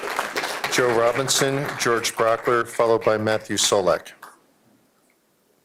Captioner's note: applause